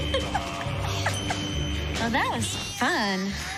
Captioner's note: woman giggling